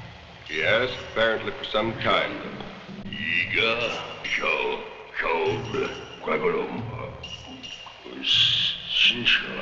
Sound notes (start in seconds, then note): 3.3 speaking in a foreign language